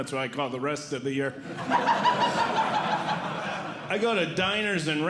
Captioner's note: audience Laughing